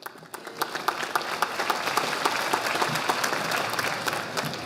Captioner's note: audience applauding